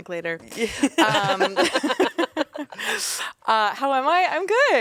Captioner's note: everyone laughs